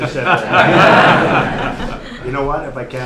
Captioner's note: laughter